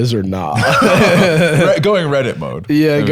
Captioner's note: both laughing